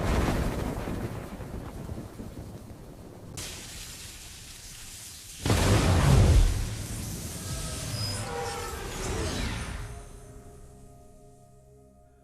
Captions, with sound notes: LUCIFER: You think they'll come back to you. Watch what they do to your own. (thunder)